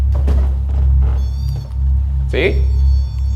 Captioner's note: REM-pod beeping